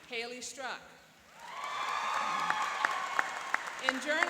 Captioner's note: cheering and applauding